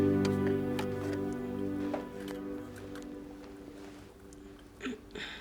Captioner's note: medical supplies rustling softly